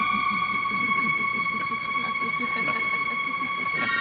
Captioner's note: laughter